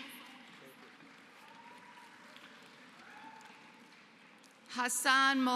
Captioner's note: applause